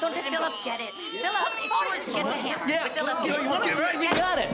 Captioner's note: overlapping chatter, children continue crying